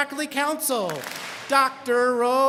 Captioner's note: students clap